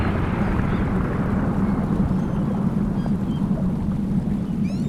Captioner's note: seagulls squawking